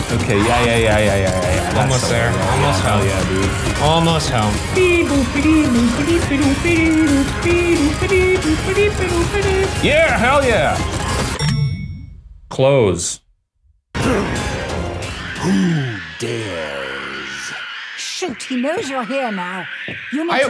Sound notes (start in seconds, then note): 4.5 imitates tense music; 11.4 ring dings; 15.3 grunts